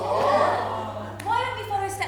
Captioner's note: audience awws